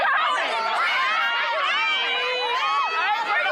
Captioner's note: crowd exclaiming